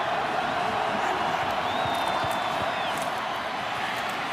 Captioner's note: cheering